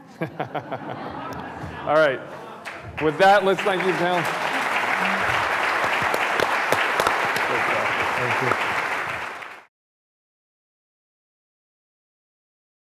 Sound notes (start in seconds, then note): 0.0 all laughing; 5.0 audience applauding